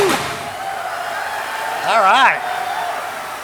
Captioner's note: fireworks firing